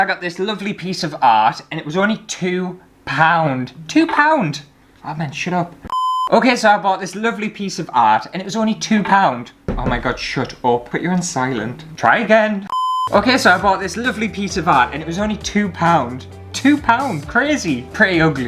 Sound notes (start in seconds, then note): 5.9 beep; 12.7 beep